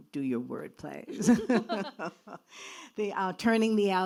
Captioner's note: laughing